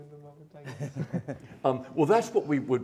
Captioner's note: laughter